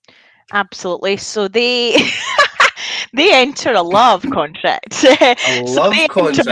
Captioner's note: laughs